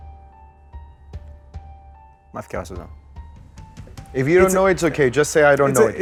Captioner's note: speaks Greek